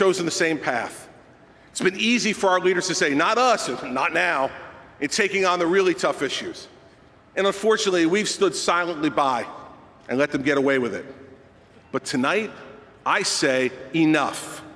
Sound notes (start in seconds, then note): none